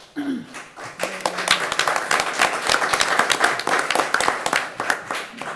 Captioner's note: attendees applauding